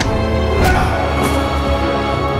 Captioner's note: thudding; light dramatic music